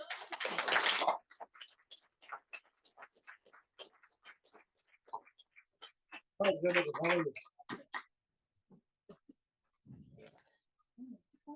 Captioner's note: applause